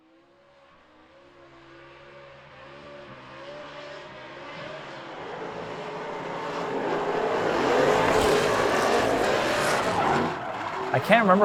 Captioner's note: engines roaring and tires squealing